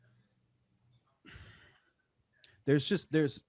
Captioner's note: exhales heavily